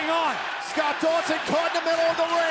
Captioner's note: crowd cheering